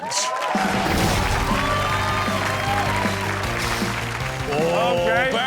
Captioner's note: audience cheering and clapping